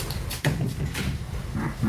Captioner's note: door opens